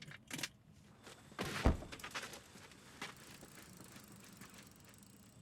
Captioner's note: trunk pops; crickets chirping